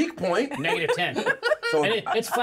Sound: laughs; speaker laughs

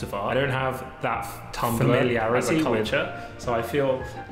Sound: voice echoing

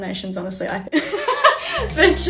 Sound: laughs

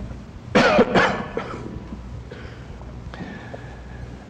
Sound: man coughing

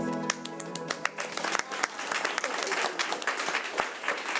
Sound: audience clapping

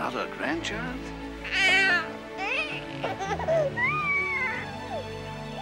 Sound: baby crying

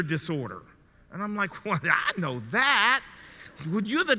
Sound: chuckles in disbelief

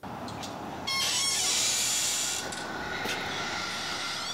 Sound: door creaking

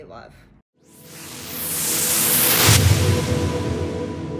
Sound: whooshing

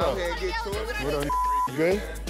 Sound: beep

